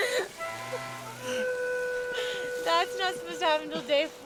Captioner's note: laughs